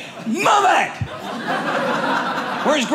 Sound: audience laughing

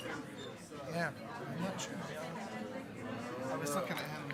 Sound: attendees chattering

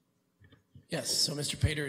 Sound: chuckling

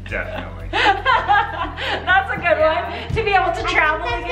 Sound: laughs

